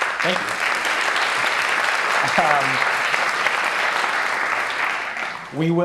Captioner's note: applause